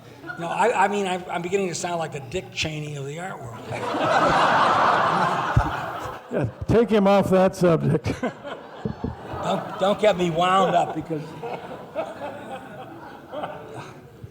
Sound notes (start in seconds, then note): 3.5 laughing